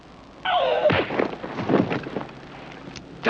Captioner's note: smack